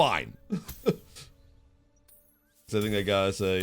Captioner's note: laughs